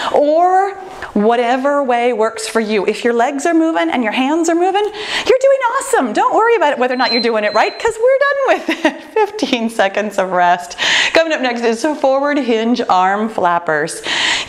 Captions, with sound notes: or whatever way works for you. If your legs are moving and your hands are moving, you're doing awesome. Don't worry about whether or not (timer beeping) you're doing it right because we're done with it, 15 seconds of rest. Coming up next is forward hinge arm flappers.